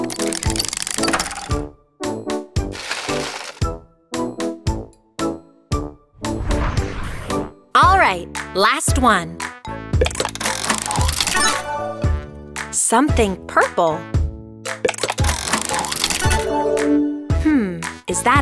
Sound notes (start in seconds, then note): 0.2 turning sound; 2.7 nuts sound; 10.2 turning sound; 15.0 turning sound